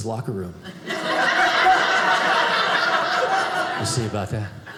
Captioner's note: audience laughing